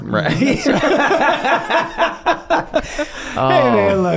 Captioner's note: all laugh